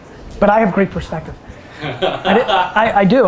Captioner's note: laughs